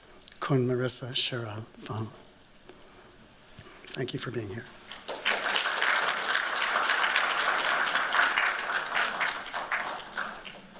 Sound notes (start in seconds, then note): 4.8 applause